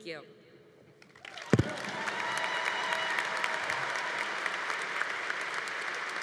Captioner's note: congregation applauding